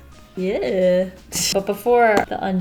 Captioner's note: laughs